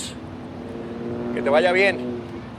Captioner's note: airplane Flying